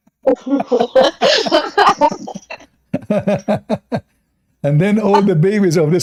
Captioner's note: Ketawa